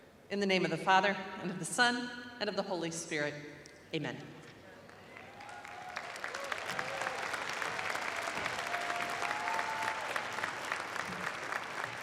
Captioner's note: applause